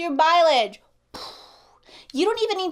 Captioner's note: blows air